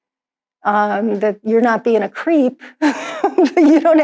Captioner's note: laughs